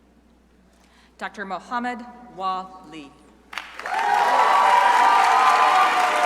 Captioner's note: crowd applauding